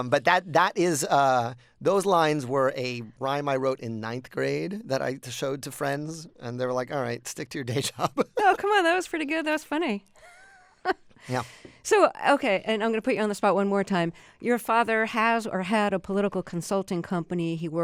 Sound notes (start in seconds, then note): 7.8 laughter; 10.2 laughter